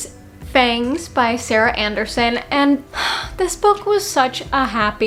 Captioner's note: happy sigh